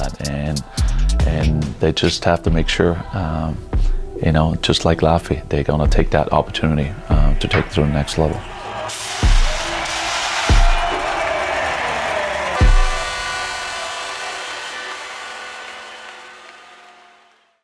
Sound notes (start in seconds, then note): 7.4 announcer shouting; 7.4 fire whooshing; 12.7 horn blaring